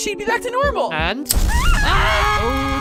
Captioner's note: Basketball and Two scream